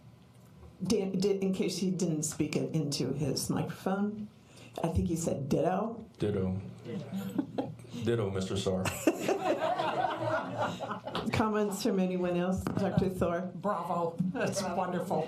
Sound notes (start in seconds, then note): 8.8 laughter